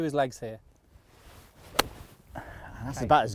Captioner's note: golf shot thwacks